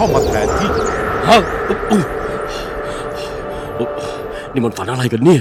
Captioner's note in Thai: หอบ